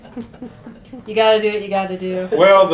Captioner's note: laughter